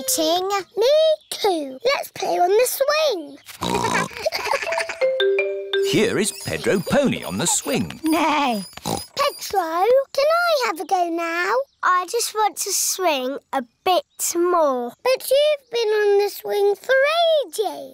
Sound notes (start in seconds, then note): 3.5 oinks; 3.9 laughter; 8.6 neighs; 8.6 oinks